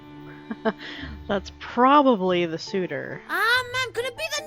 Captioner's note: chuckles